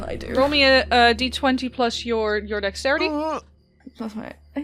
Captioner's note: grunts